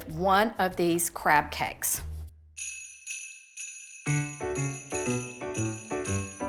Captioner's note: holiday bells ring; carefree music